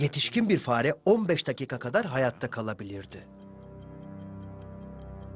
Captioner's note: clock ticking